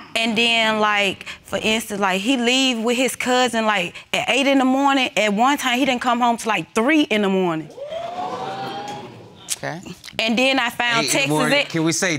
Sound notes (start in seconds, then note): 7.8 audience gasping